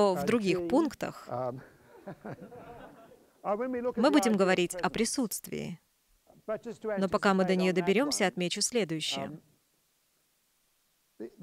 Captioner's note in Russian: смех